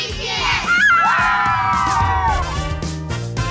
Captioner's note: all whoop